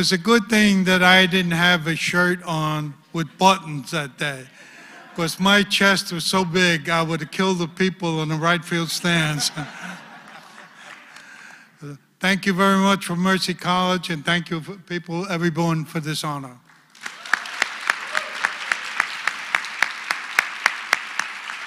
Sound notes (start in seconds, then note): 9.3 laugh; 16.7 applause